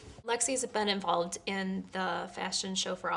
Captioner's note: none